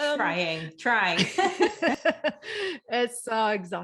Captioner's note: laughing